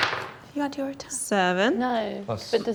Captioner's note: mumbles